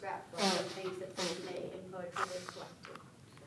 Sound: audience member blows nose

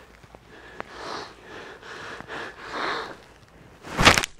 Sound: Akoda gasping

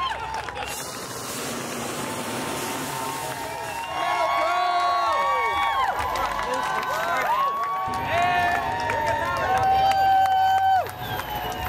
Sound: cheers

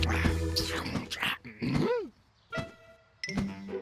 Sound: gasping

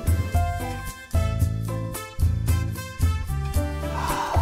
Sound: sigh

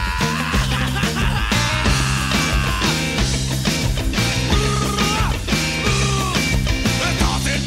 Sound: laugh

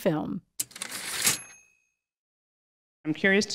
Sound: typewriter ding

